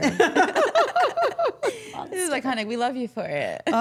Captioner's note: all laughing